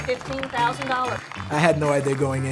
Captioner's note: applause